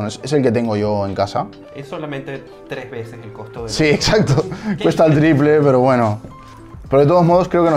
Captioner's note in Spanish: risas